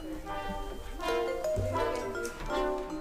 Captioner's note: sounding gavel